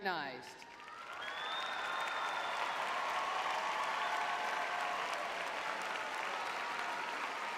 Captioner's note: audience cheering